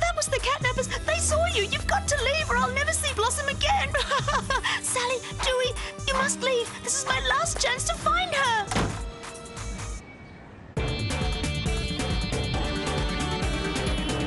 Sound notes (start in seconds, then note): 3.9 crying; 8.6 door slam